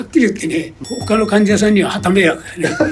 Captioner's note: laughs